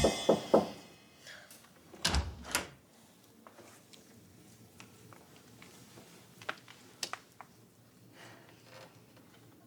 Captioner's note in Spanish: Toques en la puerta